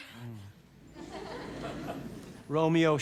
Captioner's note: audience laugh